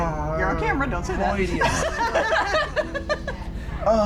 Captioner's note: laughter